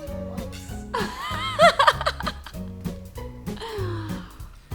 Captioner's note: laughing